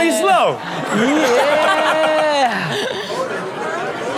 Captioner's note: laughing